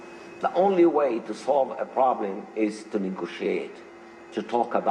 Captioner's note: speaking Arabic